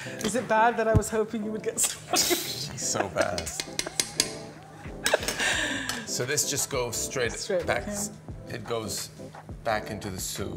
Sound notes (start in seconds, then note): 0.0 upbeat music; 4.8 laughing